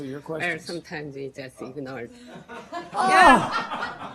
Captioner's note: laughter